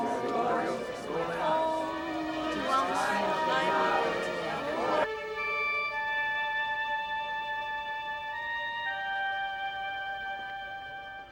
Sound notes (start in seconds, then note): 0.0 chattering